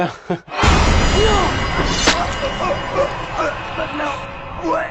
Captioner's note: sounds knife slashes, Mike in pain